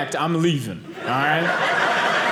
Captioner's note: audience laughing